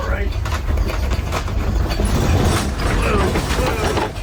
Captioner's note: metal rattling